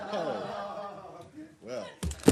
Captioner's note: laughter